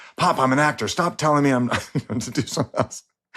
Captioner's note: chuckles